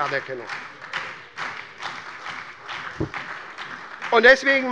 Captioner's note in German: Beifall bei der SPD